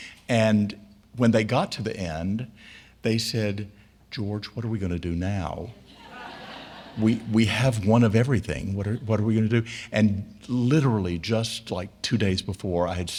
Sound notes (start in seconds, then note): 5.9 audience laughing